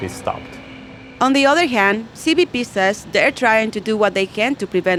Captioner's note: voiceover